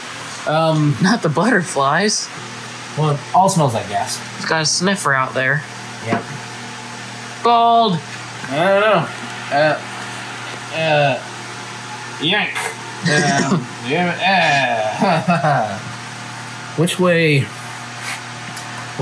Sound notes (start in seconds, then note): 13.0 undistinguishible grunting